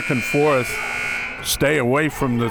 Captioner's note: buzzer ringing